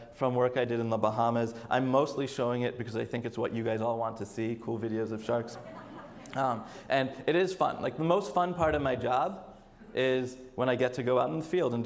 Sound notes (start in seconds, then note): 5.3 audience laughs